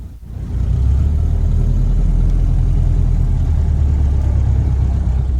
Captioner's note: Model A Mabel's engine sound increases!